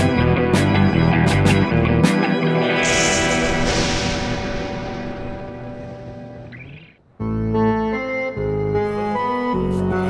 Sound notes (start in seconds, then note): 2.4 lightning strikes; 7.5 eerie music